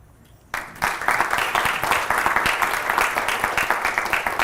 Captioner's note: applause